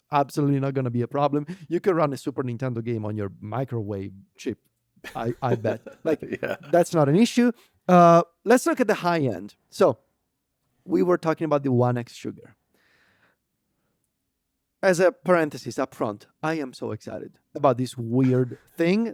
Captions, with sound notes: absolutely not gonna be a problem. You can run a Super Nintendo game on your microwave chip, I, I bet. (laughs) Yeah. Like, that's not an issue. Uh, let's look at the high end. So we were talking about the OneXSugar. As a parenthesis upfront, I am so excited about this weird thing.